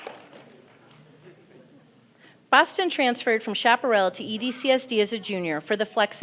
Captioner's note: applause